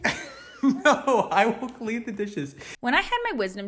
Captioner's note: laughing